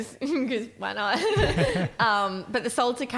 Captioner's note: laughing